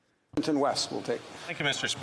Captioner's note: speaking French